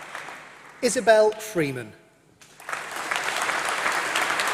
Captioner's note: applause